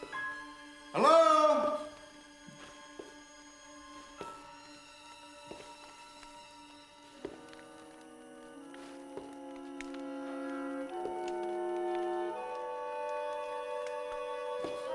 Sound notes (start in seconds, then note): 1.9 fireplace crackling softly; 7.1 uneasy music